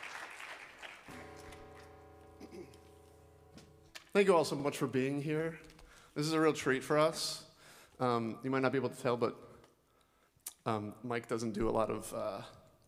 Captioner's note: applause